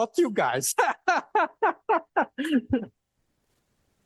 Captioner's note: laughs